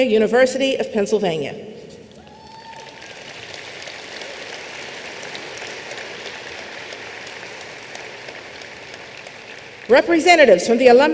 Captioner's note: applause